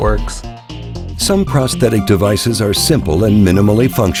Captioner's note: voiceover